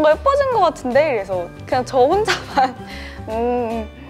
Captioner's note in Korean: 웃음